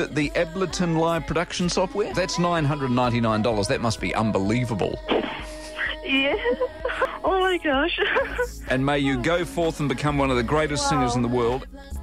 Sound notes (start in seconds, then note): 5.0 sobbing